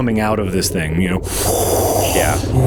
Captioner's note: inhale